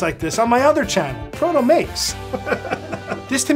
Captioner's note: laughs